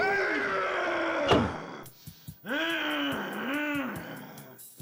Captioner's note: monster yells; thumps